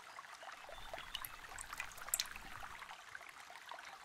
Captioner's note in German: Wassertropfgeräusche